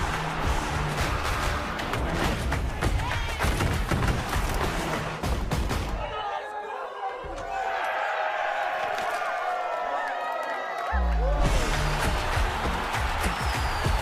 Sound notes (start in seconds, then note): 0.0 crowd cheering; 6.0 cheering from a room; 11.2 crowd cheering